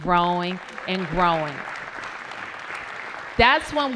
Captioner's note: applause